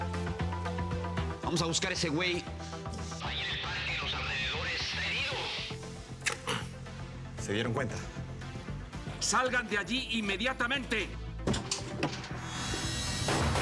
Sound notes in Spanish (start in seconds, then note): 8.7 se oye voz en altoparlante; 13.2 estrépitos